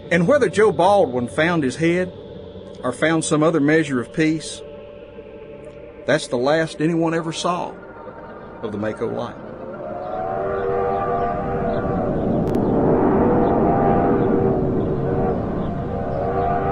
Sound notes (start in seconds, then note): 9.8 train horn blowing